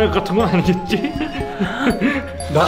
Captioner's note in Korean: 박사의 들뜬 숨소리